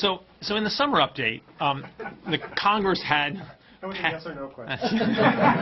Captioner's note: laughter